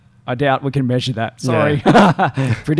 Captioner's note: laughs